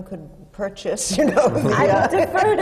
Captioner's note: laughs